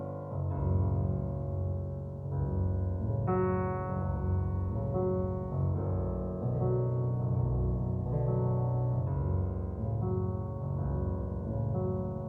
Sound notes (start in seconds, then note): none